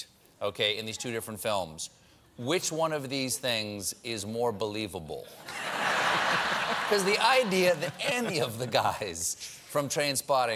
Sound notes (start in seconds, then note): 5.4 laughter